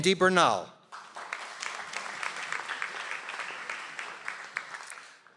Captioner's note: audience applauds